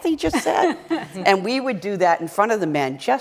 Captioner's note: laughter